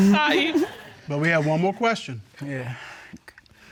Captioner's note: sighs